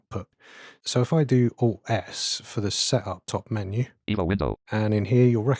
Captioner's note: automated voice